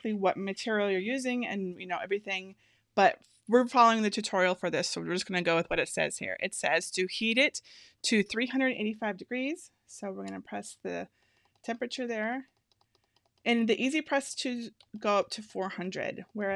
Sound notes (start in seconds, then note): none